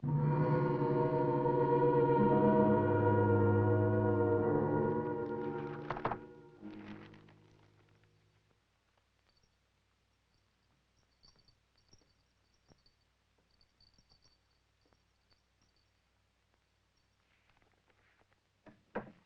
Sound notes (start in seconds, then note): 0.0 dramatic orchestral music; 10.1 bells jingling